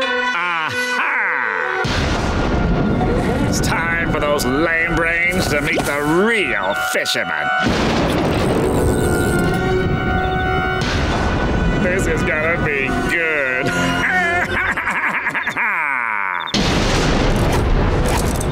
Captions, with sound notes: A-ha! It's time for those lame brains to meet the real fisherman! This is gonna be good! [laughing]